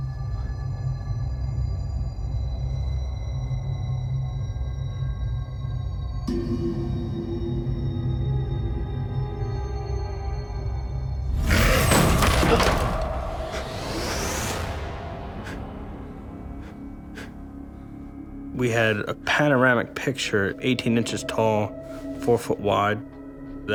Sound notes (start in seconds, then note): 11.3 whooshing and crashing; 12.4 he gasps